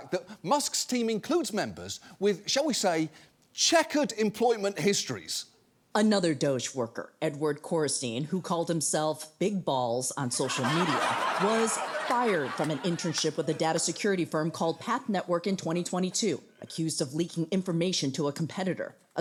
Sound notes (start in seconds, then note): 10.4 audience laughing